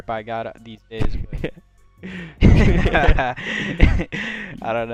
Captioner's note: both laugh